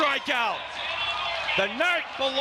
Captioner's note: crowd cheering